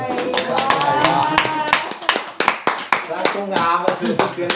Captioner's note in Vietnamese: Vỗ tay